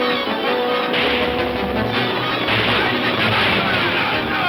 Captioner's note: dramatic orchestral music; guns firing; men shouting; Pancho shouting in Spanish